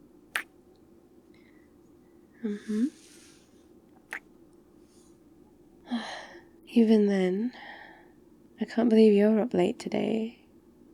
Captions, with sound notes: *kiss* mmhmm *kiss* even then... I can't believe you're up late today